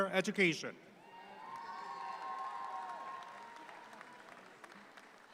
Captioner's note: audience applauds